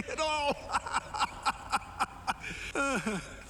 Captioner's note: laughs